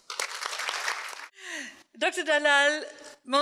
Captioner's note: audience applauds